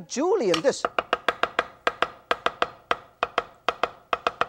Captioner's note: chopping noises